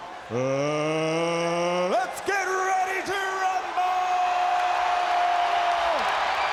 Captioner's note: crowd cheers